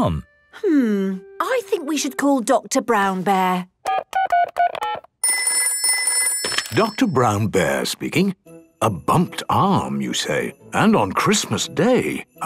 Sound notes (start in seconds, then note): 3.7 dial tones beeping; 5.2 ringing